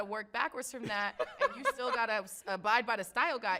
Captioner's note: laughs